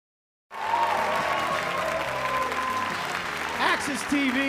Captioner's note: cheering and applause